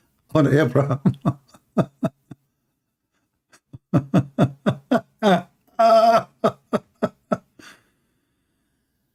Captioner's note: Ketawa